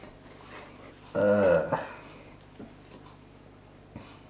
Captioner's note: groan